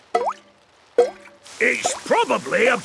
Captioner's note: water dripping